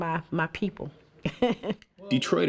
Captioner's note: laughs